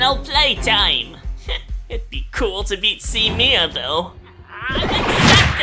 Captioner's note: scoffs